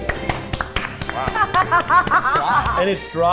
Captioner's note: laughing